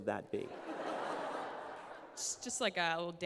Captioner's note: laughter